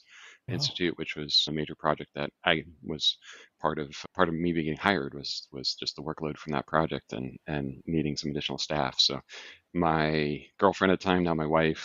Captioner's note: laughs